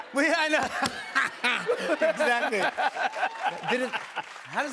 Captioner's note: laughs